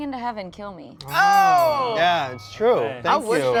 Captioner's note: bell dings